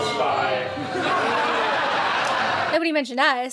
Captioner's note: guests laughing